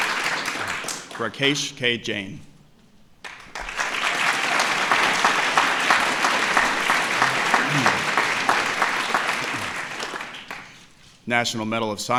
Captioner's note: applause